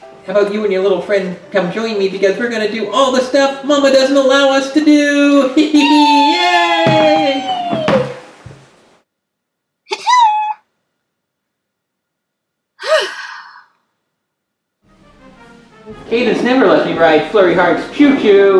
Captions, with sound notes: How about you and your little friend come join me because we're gonna to do all the stuff that Mama doesn't allow us to do! (Laughing) Yay! Ahem? (Sighs) Cadance never lets me ride Flurry Heart's choo-choo!